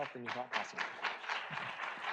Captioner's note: audience applauds